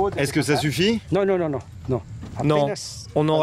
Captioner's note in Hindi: स्पैनिश बोलते हुए